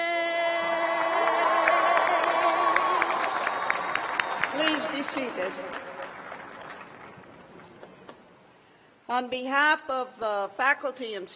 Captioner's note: cheers and applause